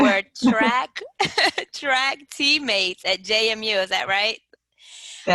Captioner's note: laughter